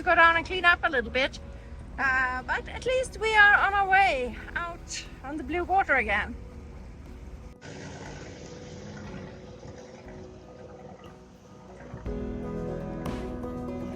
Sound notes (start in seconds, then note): 6.3 boat engines; 6.3 calm Music